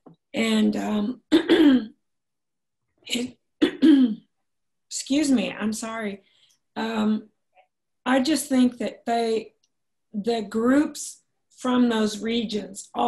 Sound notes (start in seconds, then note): 1.4 clears throat; 3.7 clears throat